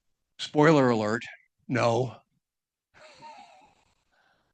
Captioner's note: chuckles